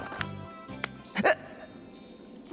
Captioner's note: hiccups